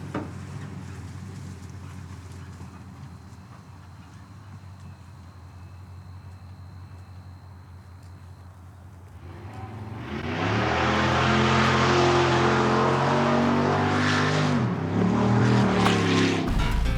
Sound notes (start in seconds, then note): 9.1 car engine rumbling